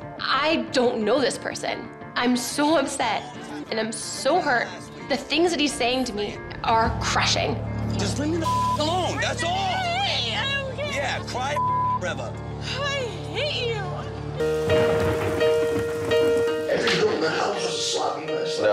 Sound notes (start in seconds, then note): 8.4 beep; 11.5 beep; 14.9 somber music